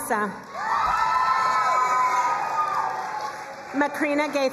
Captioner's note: crowd cheering and applauding